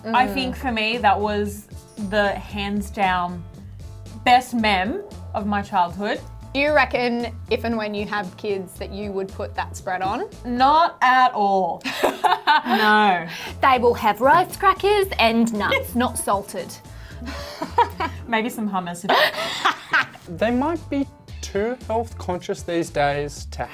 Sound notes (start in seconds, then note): 11.9 laughing; 17.2 laughing